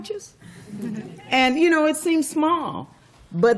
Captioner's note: laughter